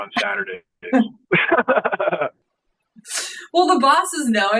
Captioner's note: laughing